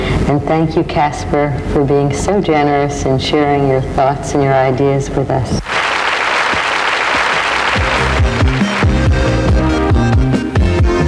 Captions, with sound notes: And thank you, Kasper, for being so generous and sharing your thoughts and your ideas with us. (applause) (electric pop music)